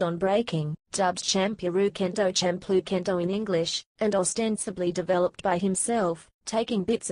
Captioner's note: Champloo Kendo in English